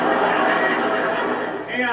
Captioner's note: laughter